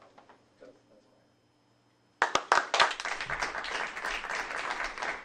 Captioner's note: applause